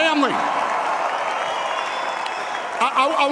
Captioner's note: applause